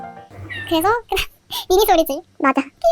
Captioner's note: meow